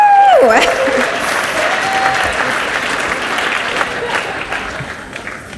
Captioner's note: audience cheers and applauds